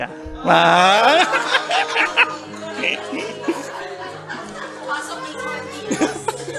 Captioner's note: laughter and murmurs